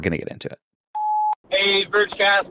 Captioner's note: beep